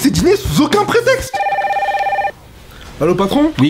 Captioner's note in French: sonnerie de téléphone